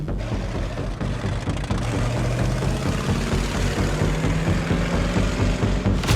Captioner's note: suspenseful music; car sputtering